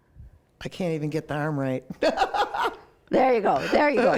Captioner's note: laughs